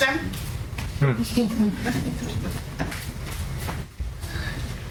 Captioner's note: laughter